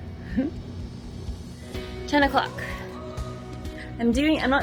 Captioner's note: giggles